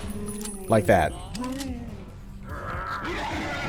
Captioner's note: big boi mourning sounds, then RAEG